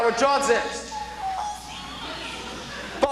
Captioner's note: in tears